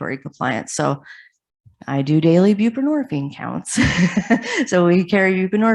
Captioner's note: chuckles